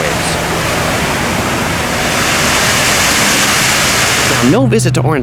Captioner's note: fountain water rushing